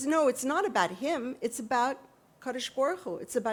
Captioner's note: hebrew